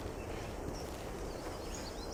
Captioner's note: birds chirping